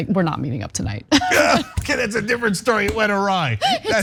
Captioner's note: laugh